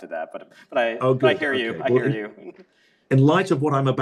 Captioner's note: laughs